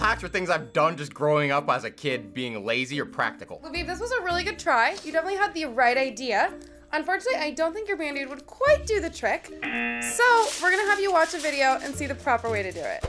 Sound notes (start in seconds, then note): 9.6 buzzer